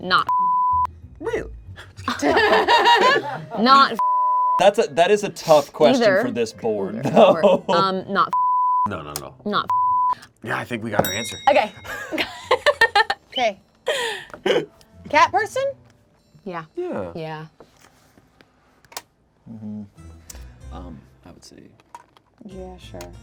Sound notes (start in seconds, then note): 0.2 beep; 4.0 beep; 11.0 bell clicking sound